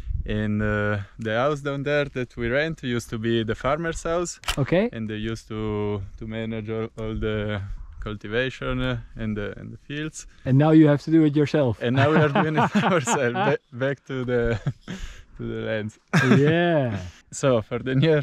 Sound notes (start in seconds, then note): 4.4 camera shutter clicking; 11.9 laughs; 15.9 laughs